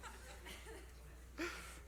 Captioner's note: laughs